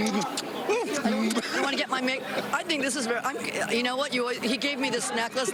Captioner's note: laughter